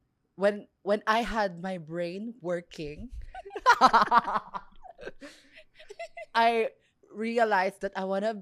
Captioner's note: laughs